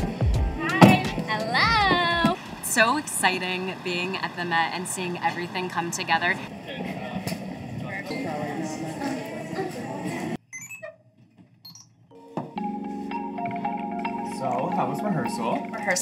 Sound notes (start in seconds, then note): 6.8 indistinct chatter; 12.2 bright upbeat music